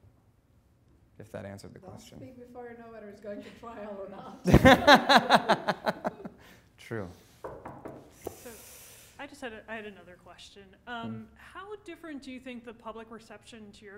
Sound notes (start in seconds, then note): 4.4 laughing; 7.4 knocking